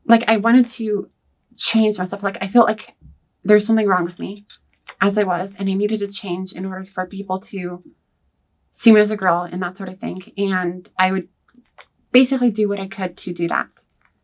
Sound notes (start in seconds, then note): none